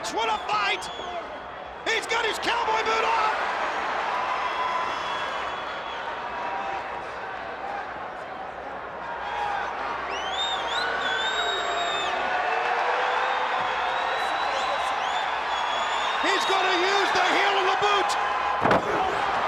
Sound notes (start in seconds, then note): 3.9 crowd cheering